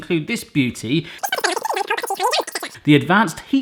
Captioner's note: sped up talking